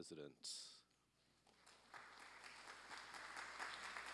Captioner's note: applause